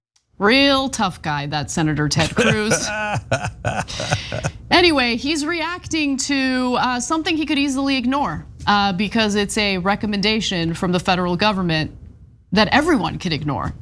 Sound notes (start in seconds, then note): 2.2 laugh